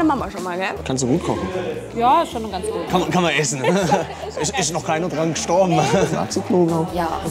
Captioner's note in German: lacht